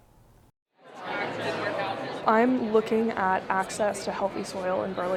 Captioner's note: people chattering